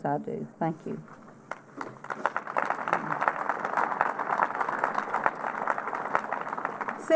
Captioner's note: applause